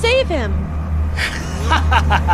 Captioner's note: hysterical laughter